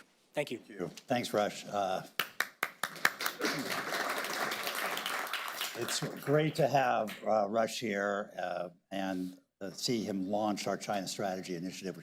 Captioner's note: applause